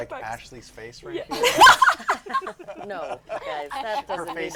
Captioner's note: laughter